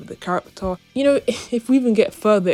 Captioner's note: chuckles